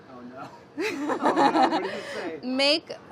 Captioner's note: laughing